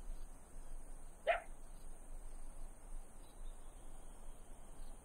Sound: dog barks

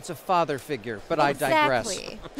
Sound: laughing

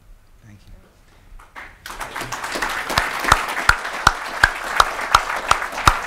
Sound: audience applauding

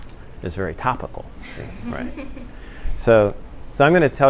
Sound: laughter

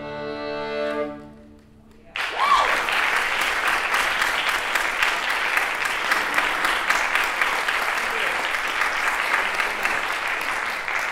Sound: applause

